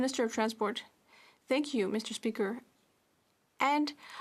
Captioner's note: speaking French